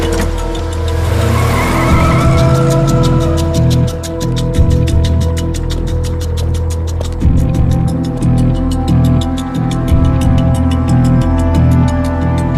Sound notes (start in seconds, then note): 1.7 tires squealing; 8.4 intense music